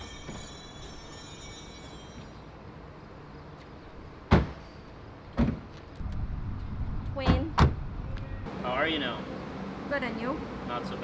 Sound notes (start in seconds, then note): 0.0 gentle chimes; 4.2 doors slam